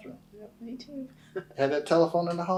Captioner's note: laughs